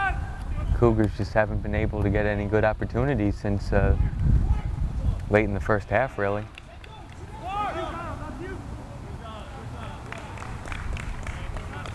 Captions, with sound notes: Cougars just haven't been able to get any good opportunities since late in the first half really. (players talking and yelling)